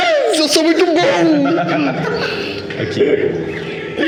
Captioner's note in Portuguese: Risadas